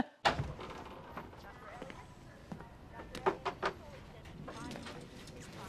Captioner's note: hospital visitors chatter